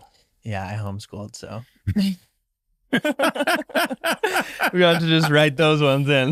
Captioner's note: laughing loudly